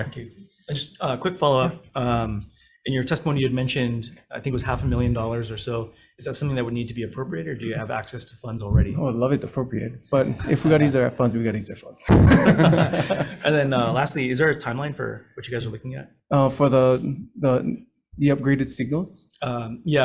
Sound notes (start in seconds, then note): 12.0 all laughing